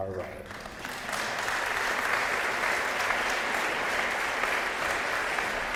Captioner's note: applause